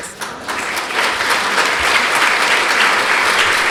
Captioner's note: applause